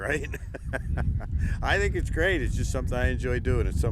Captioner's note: laughs